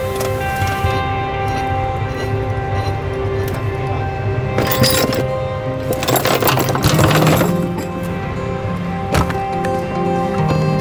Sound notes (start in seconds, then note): 4.7 chains rattling